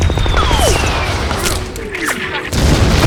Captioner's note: gunshot blasts; bullets whizzing; men grunt; explosion blasts